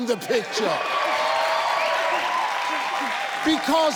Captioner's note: audience cheers